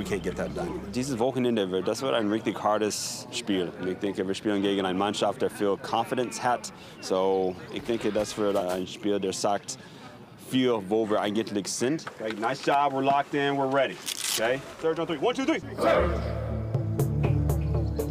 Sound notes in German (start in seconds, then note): 15.7 Anfeuernde Stimmen; 15.7 Neugierige Musik